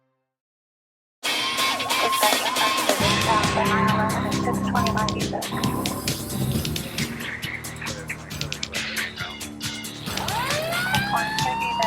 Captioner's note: fire engine, first responder talking